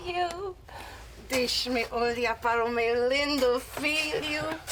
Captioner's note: speaking portuguese